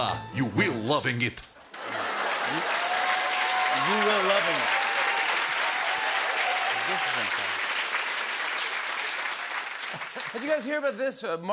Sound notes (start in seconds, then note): 1.9 laughter, cheers, applause